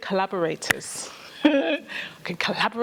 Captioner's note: laughter